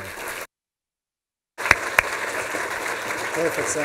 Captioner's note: applause